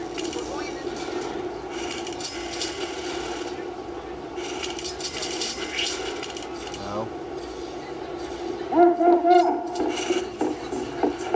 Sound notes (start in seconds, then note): 2.3 talking in background again